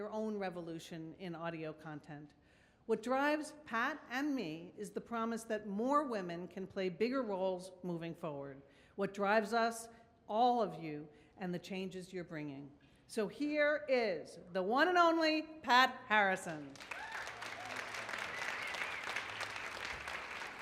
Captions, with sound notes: own revolution in audio content. What drives Pat and me is the promise that more women can play bigger roles moving forward. What drives us, all of you and the changes you're bringing. Here is the one and only, Pat Harrison. (audience cheers)